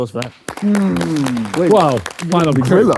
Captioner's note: crowd clapping